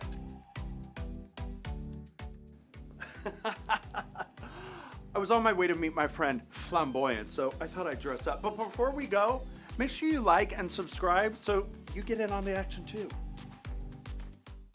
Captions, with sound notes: (upbeat music) (laughter) I was on my way to meet my friend, Flamboyance, so I thought I'd dress up. But before we go, make sure you like and subscribe so you get in on the action too.